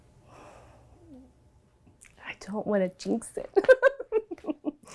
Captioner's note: laughs